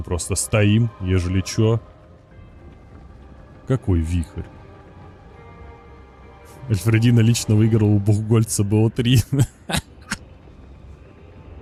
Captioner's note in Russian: смех